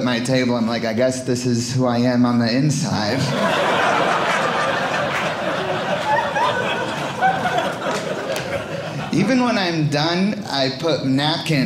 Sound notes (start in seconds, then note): 3.1 audience laughing